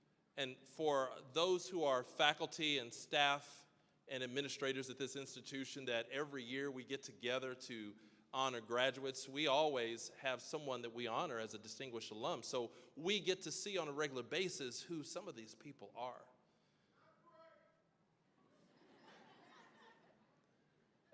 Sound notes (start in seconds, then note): 17.2 person yelling; 18.7 audience laughing